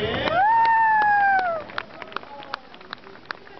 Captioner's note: crowd cheers!